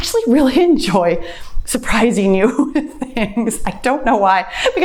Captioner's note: laughs